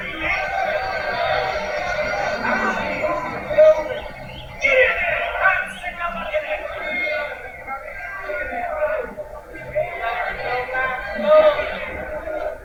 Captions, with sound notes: You dirty Yanks! Get in there! I'm sick of lookin’ at ya! [Prisoners Chatting]